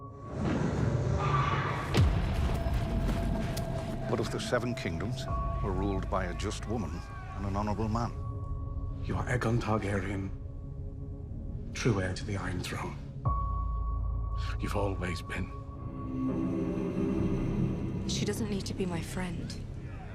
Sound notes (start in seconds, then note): 0.5 dragon shrieks